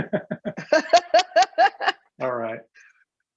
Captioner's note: both laughing